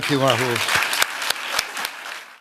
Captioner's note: applause